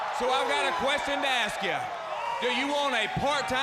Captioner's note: crowd cheering